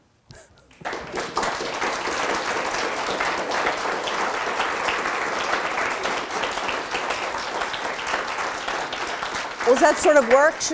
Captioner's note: audience applause